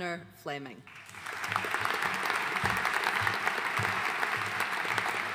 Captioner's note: audience applauding